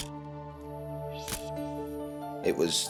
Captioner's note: camera shutter click